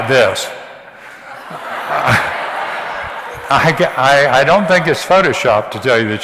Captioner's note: audience laughs